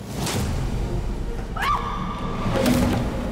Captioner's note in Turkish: Bağırma sesi